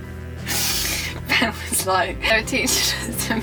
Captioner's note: laughing